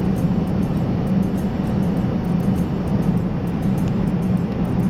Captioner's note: plane engine roaring